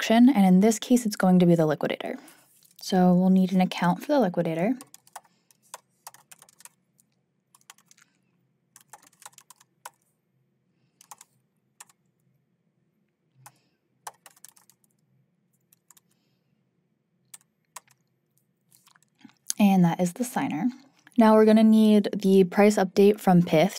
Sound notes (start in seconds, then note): 10.5 keyboard clacking